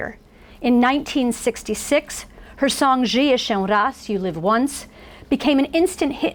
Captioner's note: foreign language